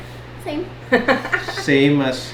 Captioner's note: laughs